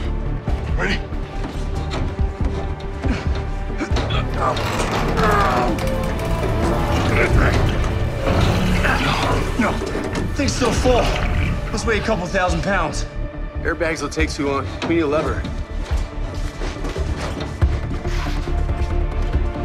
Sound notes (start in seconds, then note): 2.4 all grunting; 16.3 dramatic music